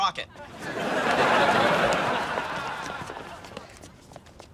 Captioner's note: audience laughs